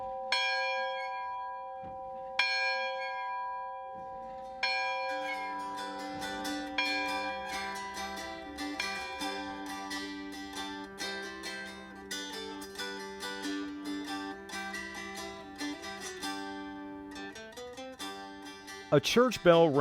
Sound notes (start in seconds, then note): 0.7 sound of church bell ringing; 0.7 sound of guitar strumming